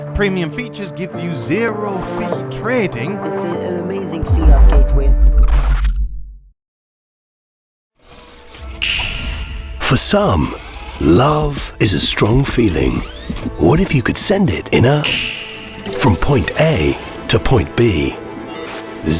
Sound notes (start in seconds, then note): 0.3 male Voice; 8.8 metallic fingersnap; 15.0 fingersnap sound